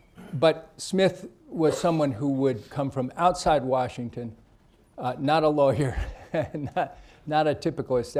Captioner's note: laughs